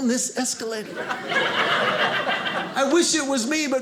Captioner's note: audience laughing